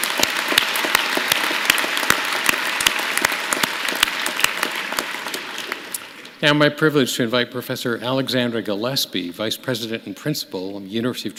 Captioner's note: applause